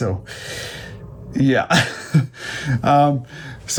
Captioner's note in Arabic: يضحك